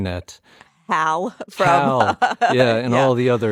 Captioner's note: laughter